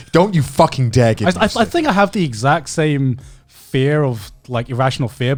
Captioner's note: laughing